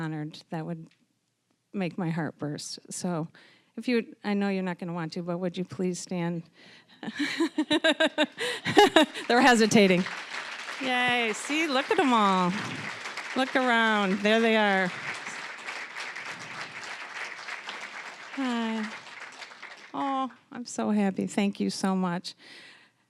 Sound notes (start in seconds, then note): 7.1 laughing; 10.4 applause; 15.4 applause